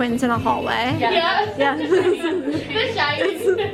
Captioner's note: laughs